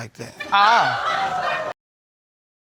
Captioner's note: audience laughing